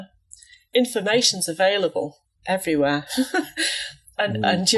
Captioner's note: laughs